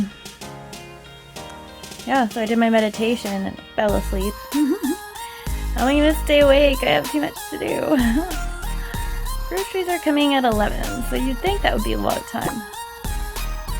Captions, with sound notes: Um... Yeah, so I did my meditation and fell asleep. [giggles] How am I gonna stay awake? I have too much to do! [laughs] Groceries are coming at 11, so you'd think that would be a lot of time.